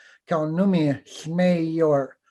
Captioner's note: foreign Language